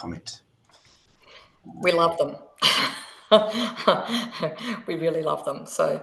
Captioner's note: laughs